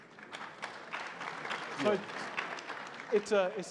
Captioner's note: crowd applauding